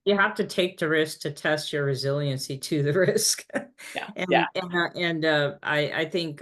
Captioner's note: chuckling